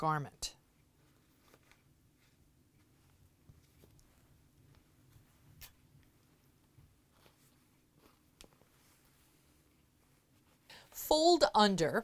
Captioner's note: no significant sound